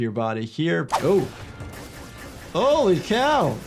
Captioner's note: gunshots booms